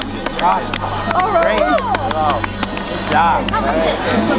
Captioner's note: crowd cheers